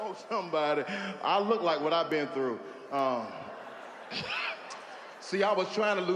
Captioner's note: chuckles